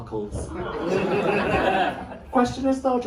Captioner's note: laughter